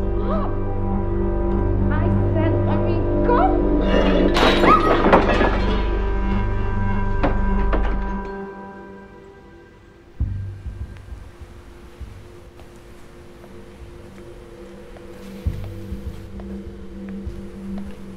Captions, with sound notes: Stop. I said, let me go! [table knocked over] [scream]